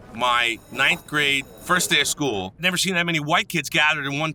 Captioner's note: bell ringing